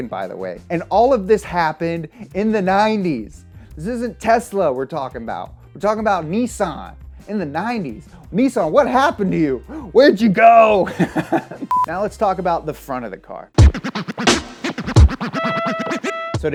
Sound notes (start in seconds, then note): 10.8 laughs; 13.6 upbeat music